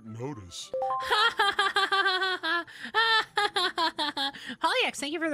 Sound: unconvincing Laughter

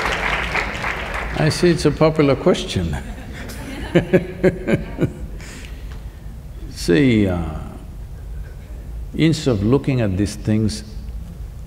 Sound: applauds; laugh

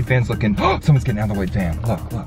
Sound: gasps

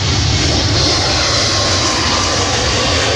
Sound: roaring continues

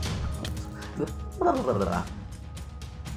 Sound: panic sounds

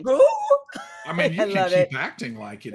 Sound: gasps

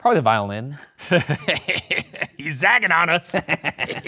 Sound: giggles

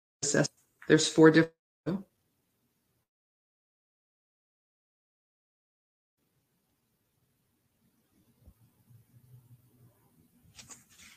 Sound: audio cuts out; audio cuts out

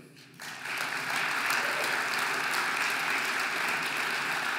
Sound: audience applauding

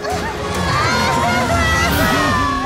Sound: sobbing

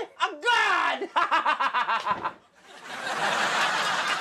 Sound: laughs; an explosion; audience laughs and claps

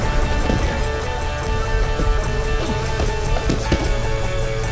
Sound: grunting

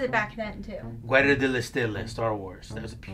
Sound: speaks Italian

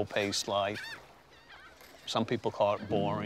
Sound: gulls calling

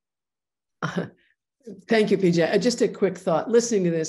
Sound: laughs

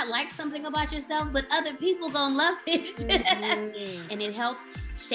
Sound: laughs

